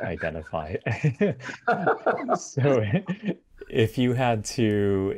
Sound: laughter

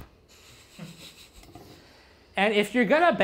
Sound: laughter

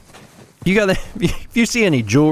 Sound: laughs

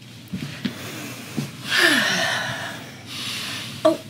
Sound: exhales

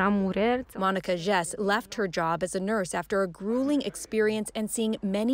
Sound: speaking French

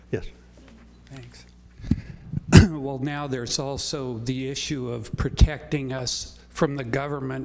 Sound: cough

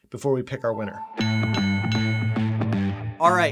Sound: bells ringing

